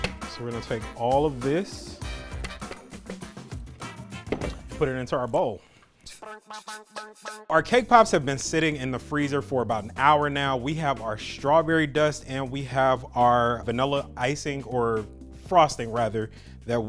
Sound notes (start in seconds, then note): 2.4 tapping bowl; 3.6 upbeat music; 6.2 upbeat music